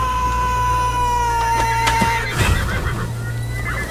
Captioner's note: children crying